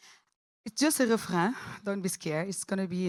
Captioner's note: french